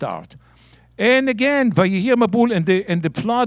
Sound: speaking in Hebrew

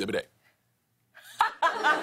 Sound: laughter

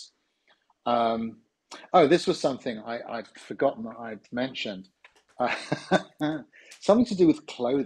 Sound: laughs

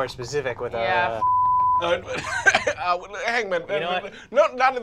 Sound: beeping

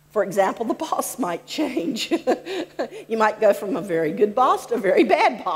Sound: laughs

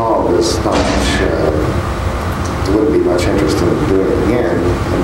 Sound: mutters

